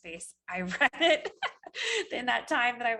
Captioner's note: laughs